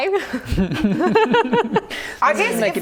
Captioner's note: laughing